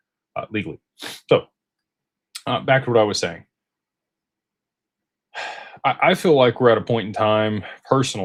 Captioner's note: snorts